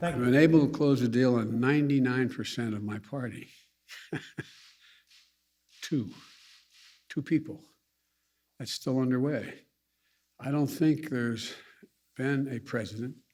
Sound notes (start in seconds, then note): 3.9 laughs